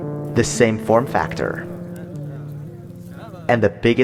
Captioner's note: snow pattering